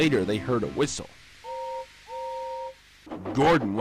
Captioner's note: Gordon whistles in the distance